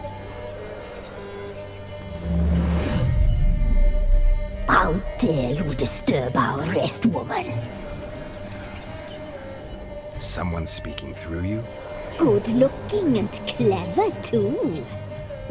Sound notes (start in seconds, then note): 0.1 ghostly whispering; 4.1 distorted voice; 11.9 distorted voice